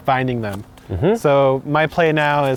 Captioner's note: hums